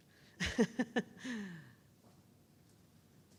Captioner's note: chuckles